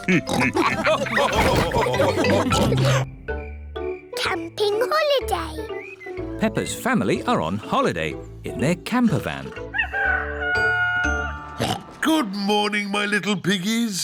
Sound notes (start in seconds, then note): 0.0 all laugh; 9.1 daddy pig oinks; 9.6 rooster crowing